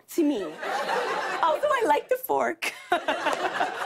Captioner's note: laughter